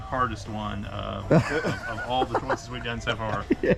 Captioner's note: laughing